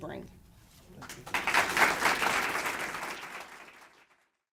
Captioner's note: audience applauds